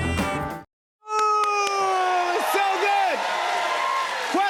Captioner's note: cheers and applause